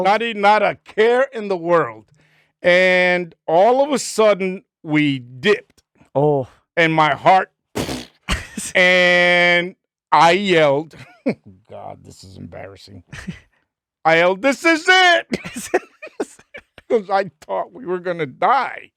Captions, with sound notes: Not even care in the world. And all of a sudden we dipped. Oh. And my heart, (blowing raspberry) and I yelled, God, this is embarrassing. I yelled, this is it. (laughing) Because I thought we were gonna die.